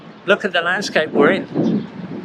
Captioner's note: none